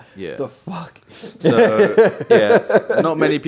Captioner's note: laughing